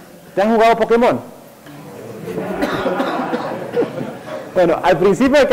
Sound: uproarious laughter

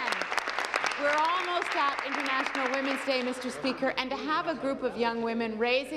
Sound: applause

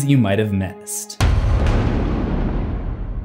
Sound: impact

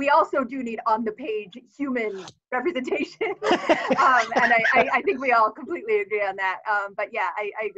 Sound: laughs

